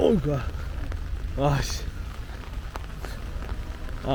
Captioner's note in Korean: 점점 강해지는 비~